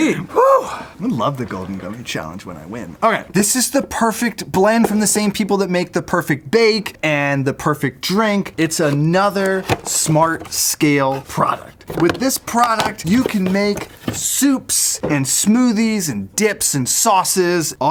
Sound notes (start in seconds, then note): none